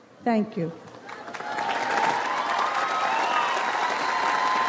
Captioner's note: audience applauds